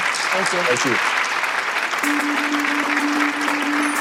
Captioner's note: applause